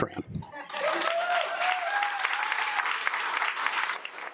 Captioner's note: audience applauding